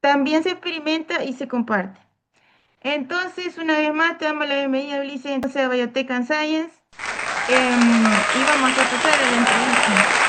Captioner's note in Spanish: aplausos